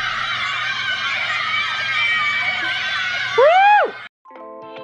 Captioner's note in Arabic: هتاف وصراخ متحمس